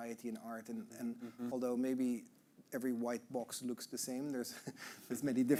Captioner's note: chuckling